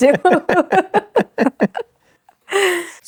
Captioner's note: both laughing